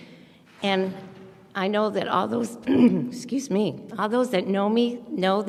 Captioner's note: coughs